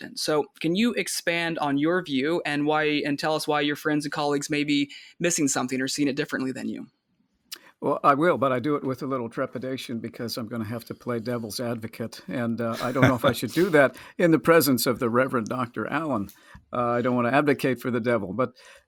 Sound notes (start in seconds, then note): 12.7 laughs